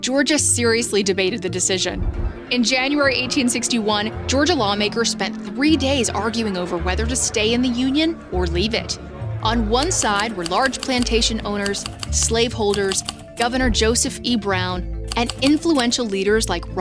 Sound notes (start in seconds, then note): 2.0 people clamoring; 9.8 keypad clacking; 16.0 keypad clacking